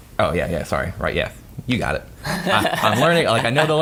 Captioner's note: laughing